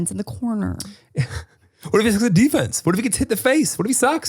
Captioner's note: chuckles